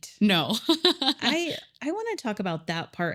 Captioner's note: laughs